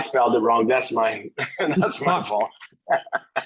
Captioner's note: laughs